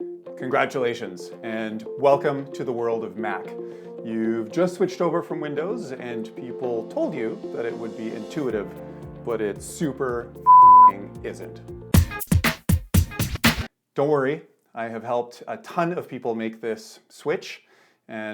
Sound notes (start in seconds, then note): 10.4 beep; 12.0 bright music